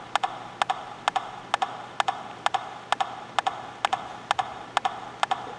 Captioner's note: rhythmic tapping